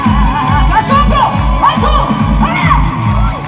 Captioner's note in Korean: 다시 한 번 박수